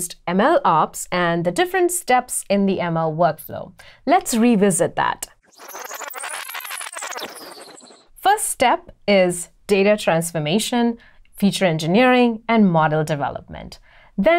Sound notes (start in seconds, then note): 5.4 rewind noise